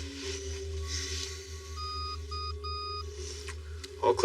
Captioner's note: machihine beeping